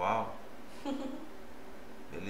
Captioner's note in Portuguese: Risos